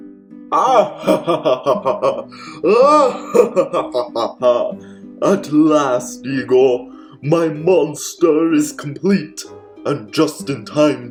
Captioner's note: maniacal laughter